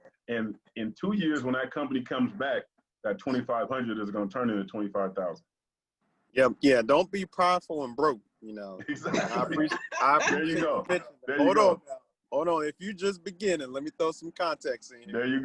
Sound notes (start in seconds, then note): 8.8 panelists laughing